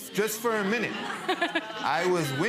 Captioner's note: people laughing